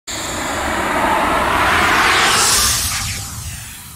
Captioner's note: air whooshing